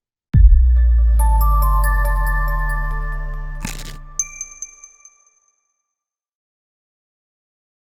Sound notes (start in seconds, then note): 1.2 upbeat music; 3.6 logo crunching